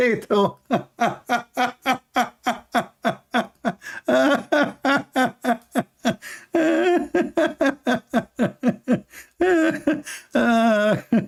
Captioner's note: Ketawa